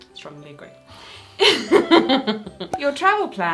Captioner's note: they laugh